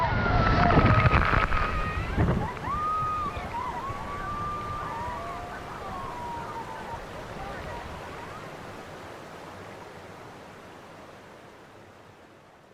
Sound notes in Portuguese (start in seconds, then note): 9.4 som das cachoeiras